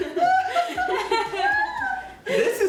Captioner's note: laughter